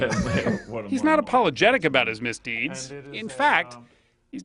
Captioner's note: laughs